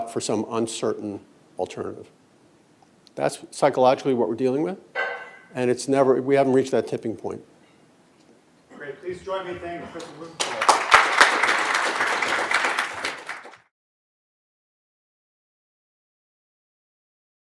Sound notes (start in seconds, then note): 9.9 applause